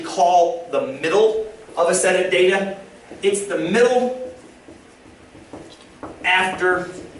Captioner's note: tapping